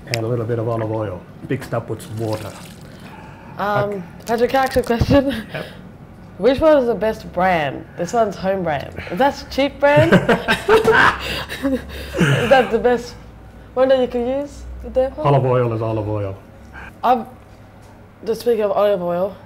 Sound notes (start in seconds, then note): 9.9 laughing